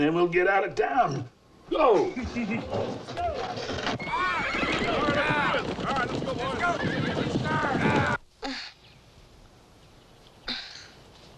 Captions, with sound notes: then we'll get out of town. Go! (boys chuckling) (horses whinnying) (hooves clopping) - All right! - All right, let's go, boys. (Tommy groans)